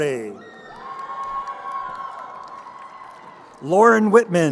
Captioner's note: crowd cheering